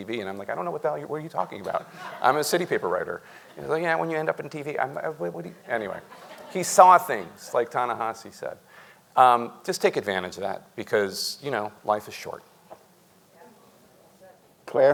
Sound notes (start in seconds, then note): 5.6 audience chuckling